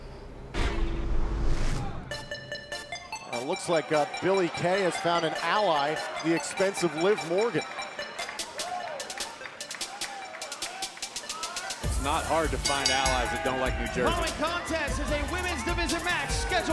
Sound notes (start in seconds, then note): 14.3 bell ringing